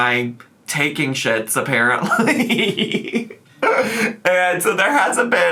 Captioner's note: laughs